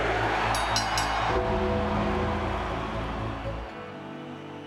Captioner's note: bell rings